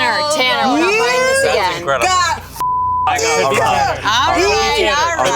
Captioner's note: beep